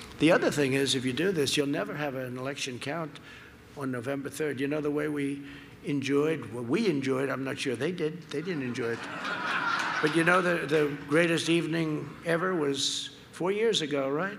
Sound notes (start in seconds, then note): 8.4 laughter